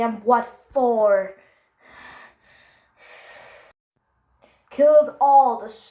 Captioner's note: heavy breathing